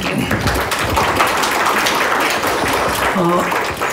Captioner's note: applause